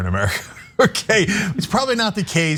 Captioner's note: laugh